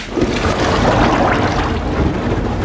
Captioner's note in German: Schnelles Blubbern